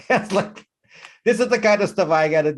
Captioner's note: laughs